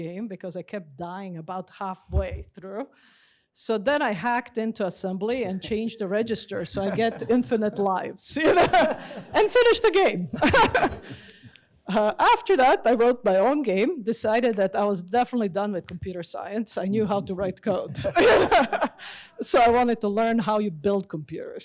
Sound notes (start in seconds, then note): 8.3 laughs; 11.5 laughs; 16.8 laughs